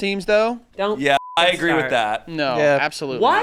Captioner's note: beep